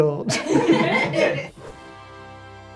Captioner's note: laughs